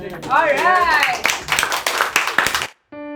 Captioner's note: clapping